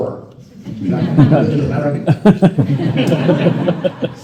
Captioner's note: laughter